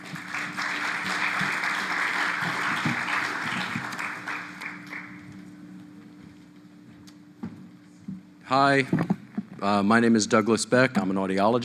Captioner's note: applause